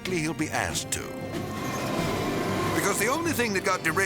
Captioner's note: dramatic orchestral music; train rustling